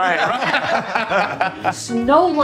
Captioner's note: all laughing